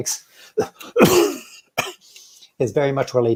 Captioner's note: coughs